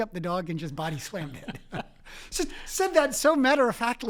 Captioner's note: laugh